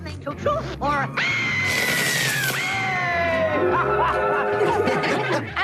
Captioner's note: screams and laughter